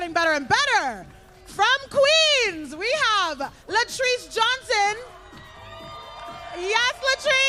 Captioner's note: applause